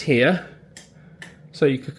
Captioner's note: light switch clicking